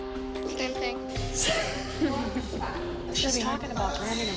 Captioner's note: laughs